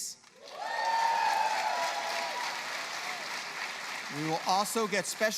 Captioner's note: cheers